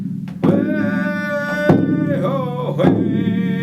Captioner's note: drumming; chanting